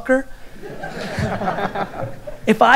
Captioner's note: audience laughter